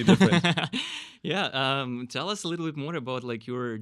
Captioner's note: laughing